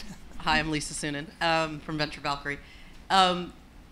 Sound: voiceover

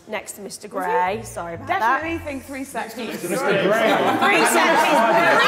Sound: Sidemen laughing

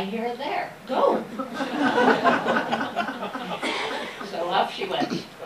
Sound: laughter

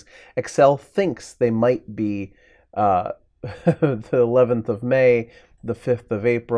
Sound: chuckles

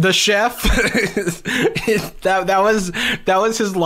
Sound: laughs

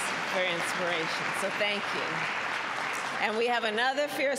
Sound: applause

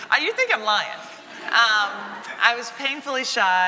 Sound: audience laughing

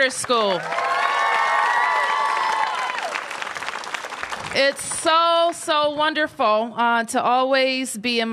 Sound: applause

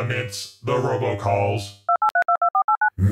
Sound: Phone dials. Evil Emperor picks up

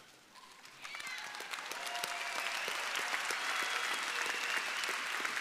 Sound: audience applauding

